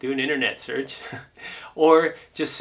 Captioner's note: laughs